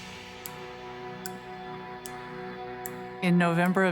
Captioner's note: clock ticking; tense music